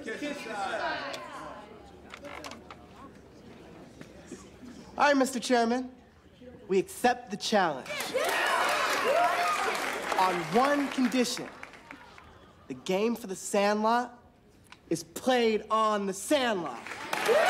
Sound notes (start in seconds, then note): 0.1 chattering; 7.8 cheering; 16.8 cheering